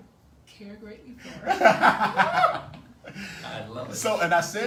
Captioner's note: laughs